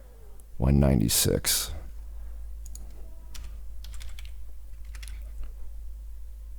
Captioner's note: keyboard clicking